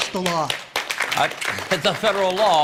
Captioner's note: applause